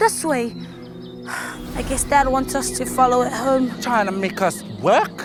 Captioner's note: sighs